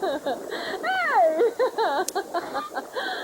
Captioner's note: jacuzzi bubbling